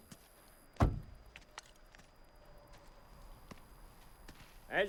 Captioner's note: door thuds